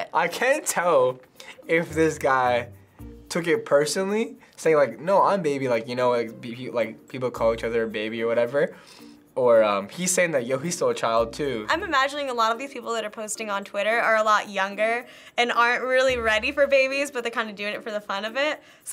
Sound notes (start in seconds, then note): none